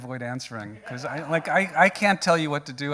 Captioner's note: audience laughing